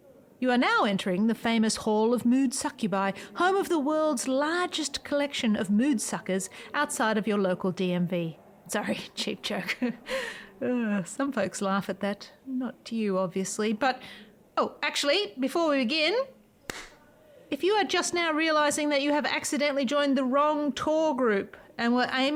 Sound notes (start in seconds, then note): 16.6 claps hands